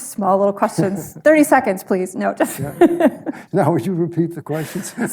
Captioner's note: laughs